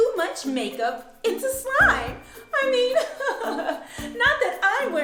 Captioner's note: laughing